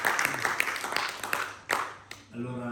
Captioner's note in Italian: Applauso